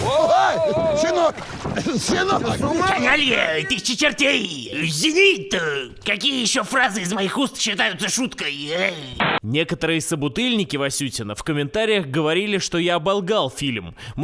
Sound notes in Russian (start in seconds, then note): 2.5 подражая Боярскому; 8.9 помехи